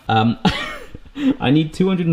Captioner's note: laughing